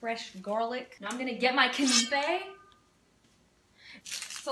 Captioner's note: knife sound